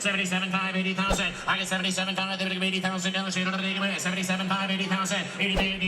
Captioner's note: auctioneer chant; auctioneer chant